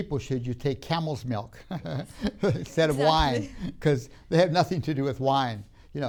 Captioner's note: laughs